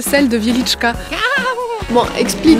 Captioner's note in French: rire étrange